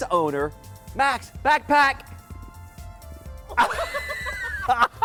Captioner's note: laughter